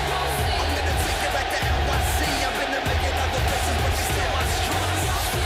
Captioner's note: cheers and applause